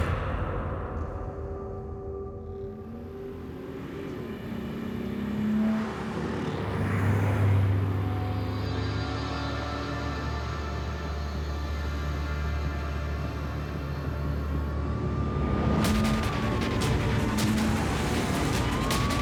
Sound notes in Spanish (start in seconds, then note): 3.5 ruido de un vehículo en marcha